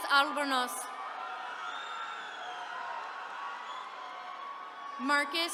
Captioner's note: attendees cheering